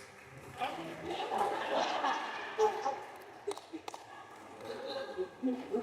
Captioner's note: audience laughs